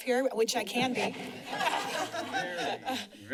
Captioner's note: laughing